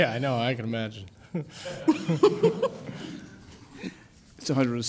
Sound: courtroom laughs

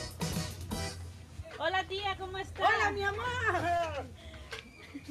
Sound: speaking spanish

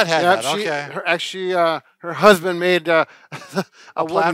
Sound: laughs

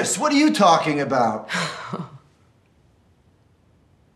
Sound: scoffs

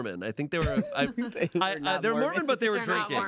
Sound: laughs

